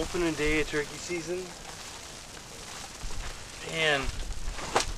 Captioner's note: rain pattering